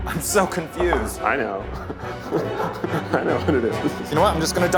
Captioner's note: laughing